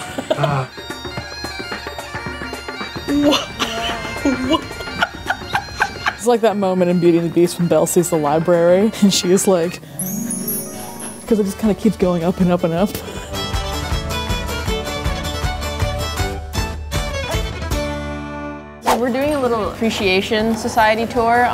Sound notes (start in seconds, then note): 0.0 laughing; 0.6 bagpipes playing; 5.7 laughing; 9.8 harp plays; 13.4 cheerful music